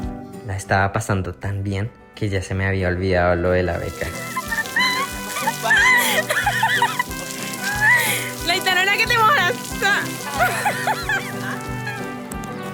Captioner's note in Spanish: risas